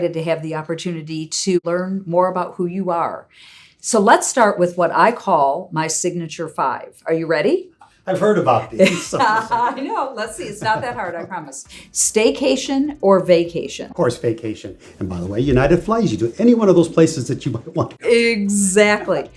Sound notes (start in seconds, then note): 8.3 laughs; 10.3 chuckles